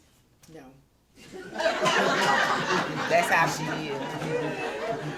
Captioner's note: laughter